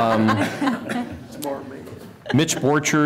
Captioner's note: laughter